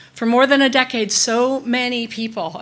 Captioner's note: none